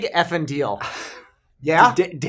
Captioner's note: laugh